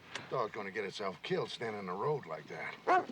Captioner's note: barking